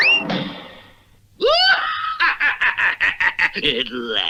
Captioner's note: Simon Bar Sinister Laughs